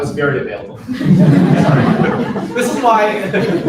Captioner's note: laughter